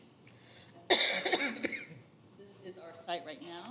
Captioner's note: attendee coughs